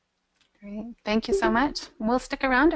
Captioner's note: voiceover